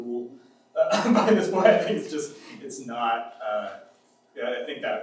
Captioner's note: laughs